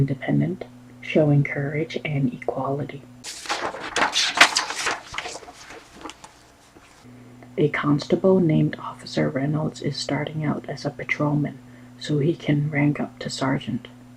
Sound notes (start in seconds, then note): 3.2 flipping through pages